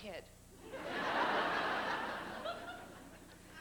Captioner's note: laughter